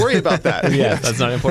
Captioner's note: laughter